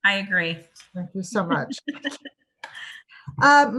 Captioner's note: laughs